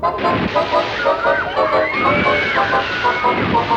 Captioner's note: riders scream